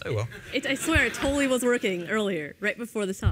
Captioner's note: laughter